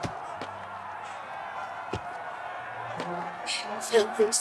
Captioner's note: footsteps